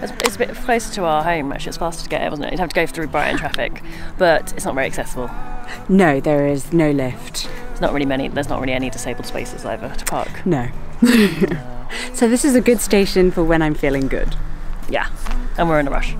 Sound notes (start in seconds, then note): 11.0 laughs